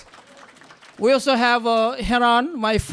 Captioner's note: applause